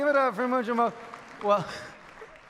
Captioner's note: some clapping in audience